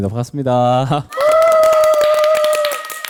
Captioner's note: A round of applause